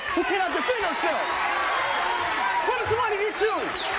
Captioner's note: audience cheers